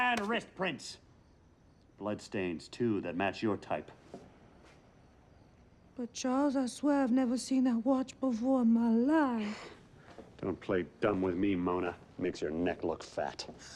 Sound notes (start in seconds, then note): none